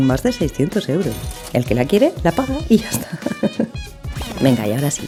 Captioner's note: laugh